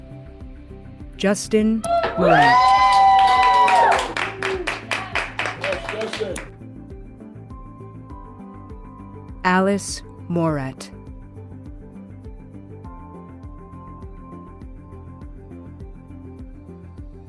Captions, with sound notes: Justin Morant. [CHEERING] Yes, Justin! Alice Morath.